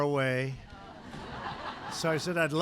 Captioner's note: laughter